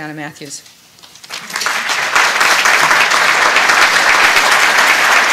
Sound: applause

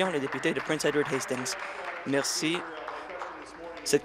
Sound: applause

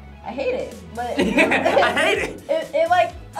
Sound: laughs

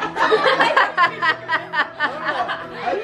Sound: laughing

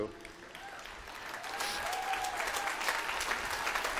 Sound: applause

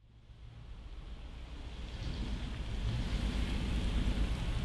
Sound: car engines

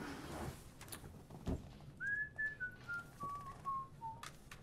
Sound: Tom whistling

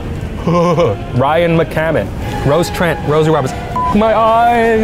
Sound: beeping

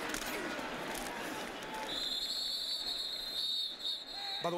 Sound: whistle

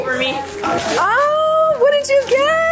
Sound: family chatters excitedly

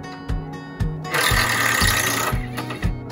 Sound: electric drill sound

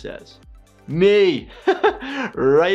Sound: laughs

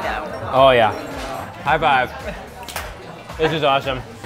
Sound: hands clap together

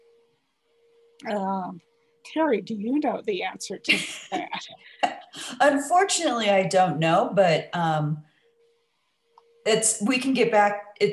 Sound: laughs

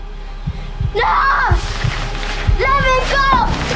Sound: Crystal Screams

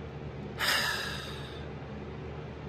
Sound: sighs

